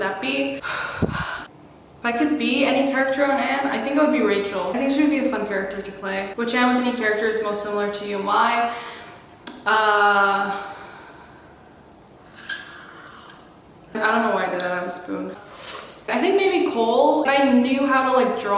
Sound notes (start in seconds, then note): 0.6 breathes